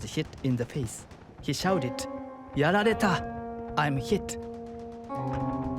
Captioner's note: speaking in foreign language